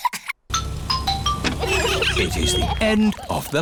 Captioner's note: trumpets; horns honking